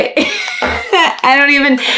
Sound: laughs

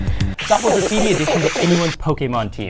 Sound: BGM slap bass 3x; loudly gulping

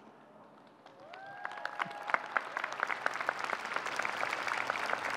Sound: audience cheering

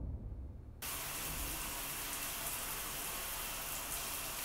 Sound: deep ominous music fading; water rushing

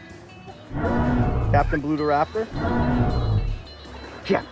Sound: dinosaur roars

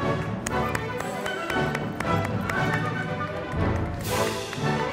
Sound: audience applauding

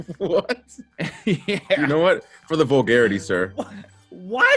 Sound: laugh

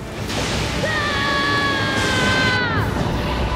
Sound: screaming

